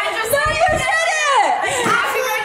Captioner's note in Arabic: يضحك